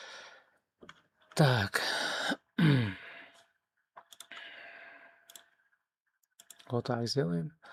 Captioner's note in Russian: вздыхает; откашливается